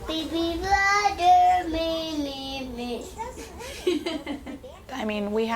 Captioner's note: laughs